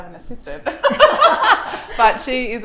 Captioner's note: both laughing